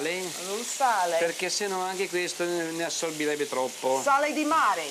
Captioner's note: speaking Italian